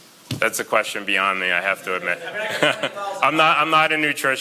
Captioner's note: laughs